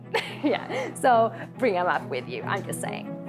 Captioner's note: chuckles